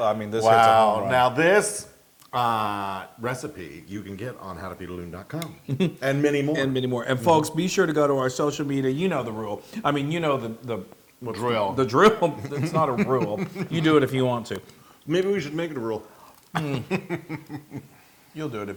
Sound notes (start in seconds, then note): 5.1 laugh; 16.5 laugh